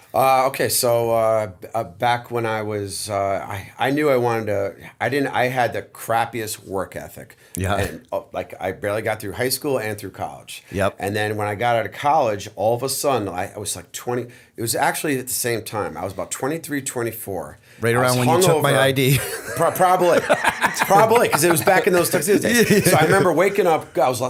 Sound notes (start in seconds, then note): 19.2 chuckle; 20.6 laughter